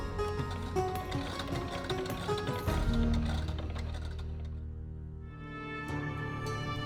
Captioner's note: machine clicking; suspenseful music